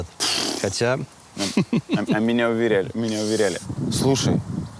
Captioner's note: laughs